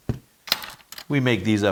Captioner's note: metal clattering